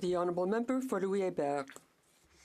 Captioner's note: speaking French